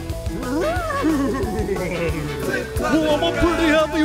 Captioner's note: horse whinnies